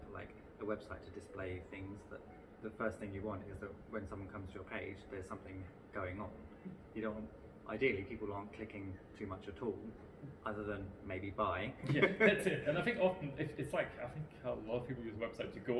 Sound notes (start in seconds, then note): 11.9 laughing